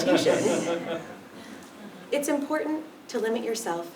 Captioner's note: laugh